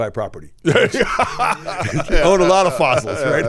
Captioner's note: laughing